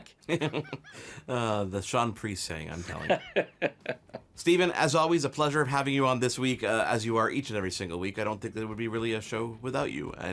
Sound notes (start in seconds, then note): 0.1 laughs; 2.9 laughing